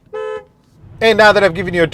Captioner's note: car horning